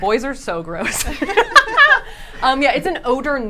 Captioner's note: group laughing